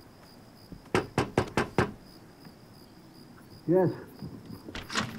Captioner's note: knocks